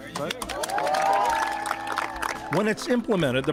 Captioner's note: group applauds